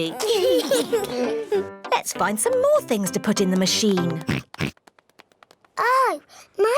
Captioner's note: oinks